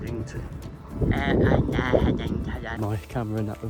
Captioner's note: exaggerates mumbling